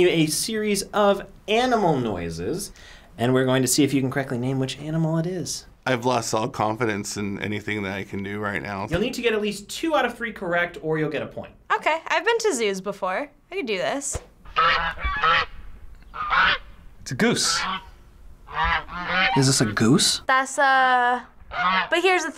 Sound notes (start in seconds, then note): 16.0 animal squawks